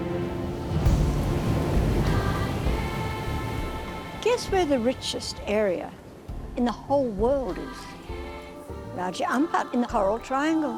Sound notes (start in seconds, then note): 0.0 tribal music; 0.7 waves crashing